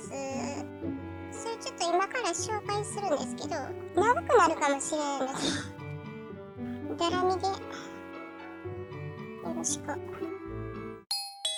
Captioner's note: laugh